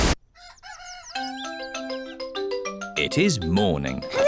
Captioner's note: cockerel crows